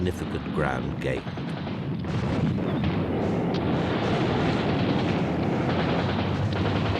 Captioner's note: gunfire